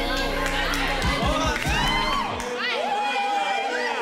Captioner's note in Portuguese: falatório